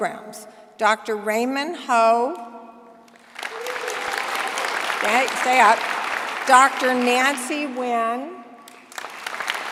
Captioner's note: applause